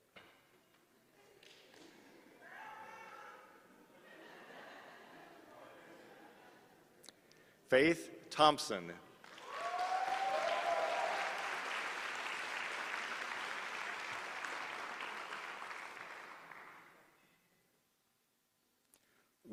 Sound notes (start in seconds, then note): 7.7 laughter; 9.2 applause